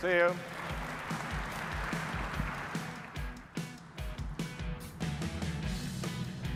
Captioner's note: audience applauding; upbeat music